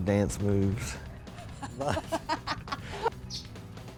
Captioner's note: laughs